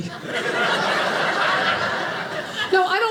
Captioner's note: audience laughing